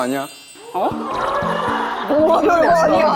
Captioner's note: the crowd booing